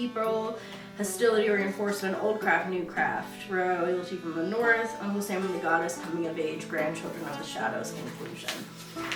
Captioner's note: mumbles